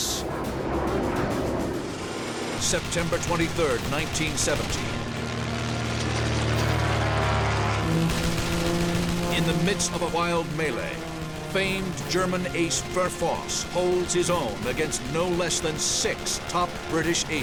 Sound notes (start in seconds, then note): 0.2 engines blaring; 4.8 weapons firing